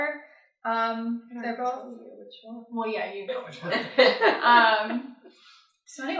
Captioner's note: laughter